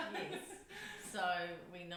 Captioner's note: laughs